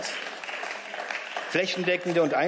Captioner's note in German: Beifall